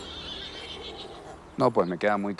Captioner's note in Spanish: Relinchos